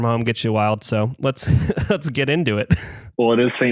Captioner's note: laughs